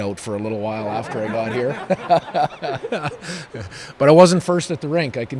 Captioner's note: everyone laughing